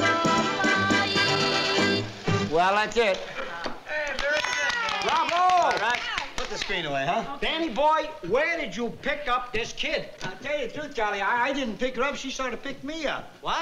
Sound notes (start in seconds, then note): 3.9 applause